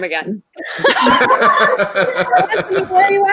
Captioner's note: all laughing